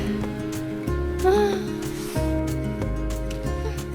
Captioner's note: tired person noises